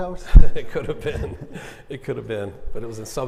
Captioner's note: laughing